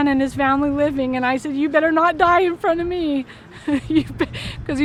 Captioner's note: laughing